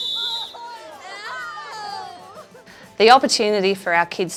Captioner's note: whistle blows; children playing loudly